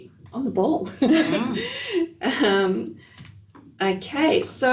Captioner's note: laughs